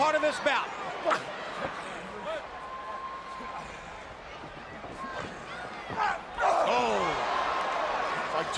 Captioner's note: crowd chatter